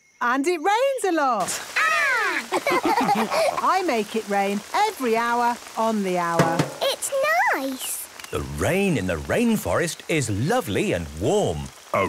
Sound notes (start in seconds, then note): 2.4 all laughing; 6.4 taps